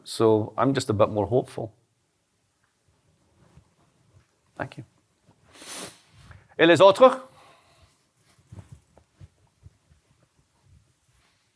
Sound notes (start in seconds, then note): 6.1 non-english speech